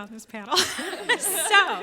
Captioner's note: panelists laughing